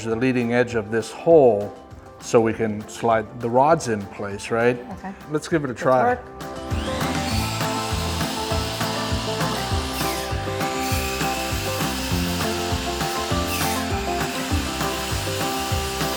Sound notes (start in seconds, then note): 6.6 drill whirring; 6.6 upbeat music